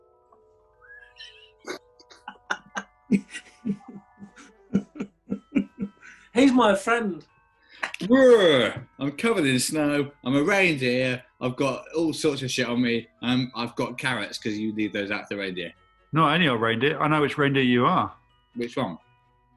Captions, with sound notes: [GIGGLING] He's my friend. Brrrrr! I'm covered in snow, I'm a reindeer, I've got all sorts of shit on me. And I've got carrots because you leave those out for the reindeer. Not any old reindeer, I know which reindeer you are. Which one?